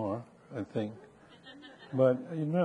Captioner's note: audience laughing